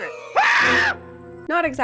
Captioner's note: man screams